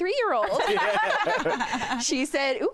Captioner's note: all laugh